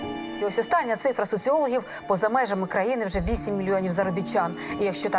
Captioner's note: speaking foreign language